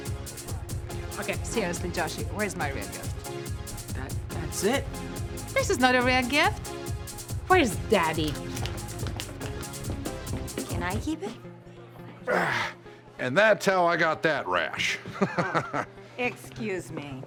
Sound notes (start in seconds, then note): 12.2 exhales; 14.9 laughs